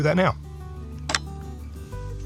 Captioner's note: satisfying click